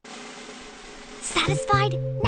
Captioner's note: whispering